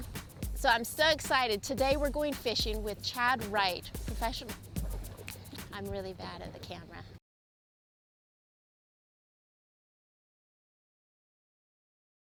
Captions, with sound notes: So I'm so excited today I'm going fishing with Chad Wright, professional.... [snaps] I'm really bad at the camera.